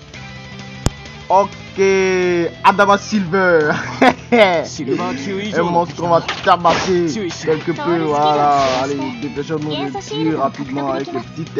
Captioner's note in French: rire